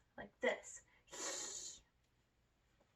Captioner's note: hisses